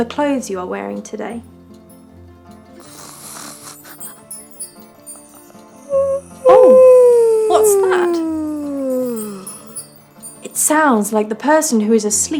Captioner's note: upbeat music continues; chimes; yawn